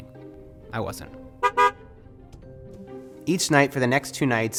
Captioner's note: car horn honks